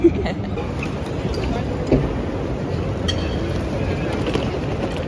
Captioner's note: background chatter